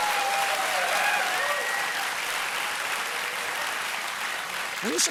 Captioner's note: cheers and applause